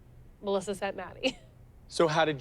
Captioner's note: laughs